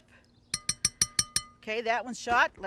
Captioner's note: spoon clinging